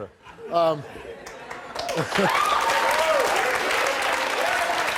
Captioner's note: audience claps